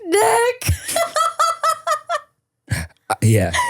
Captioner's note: person laughing